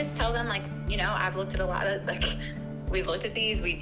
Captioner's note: chuckles